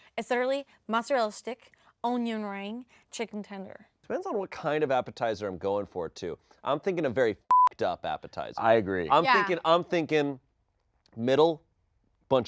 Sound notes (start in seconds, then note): 7.5 beep